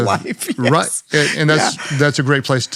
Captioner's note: laughs